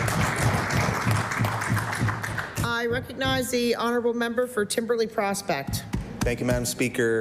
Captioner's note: applause